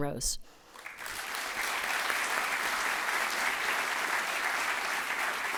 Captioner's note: applause